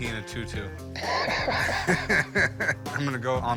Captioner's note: both laughing